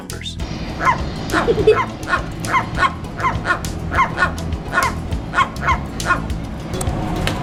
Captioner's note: alternately squawking at each other